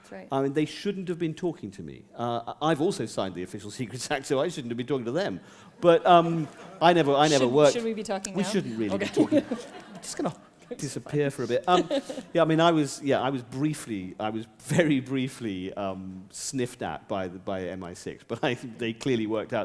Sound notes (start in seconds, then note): 6.4 chuckle; 11.4 laughter